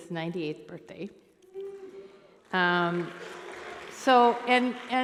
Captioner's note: cheering